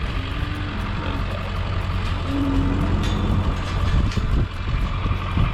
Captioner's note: mooing